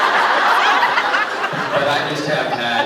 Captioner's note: laughs